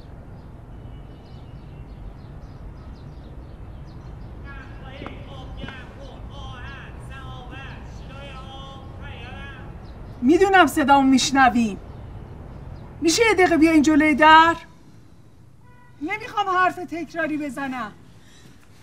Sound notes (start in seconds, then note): 0.3 birds singing; 4.4 street vendor talking in the background